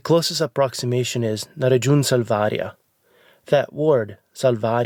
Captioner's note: speaking in foreign language